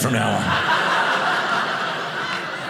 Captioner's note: audience laughing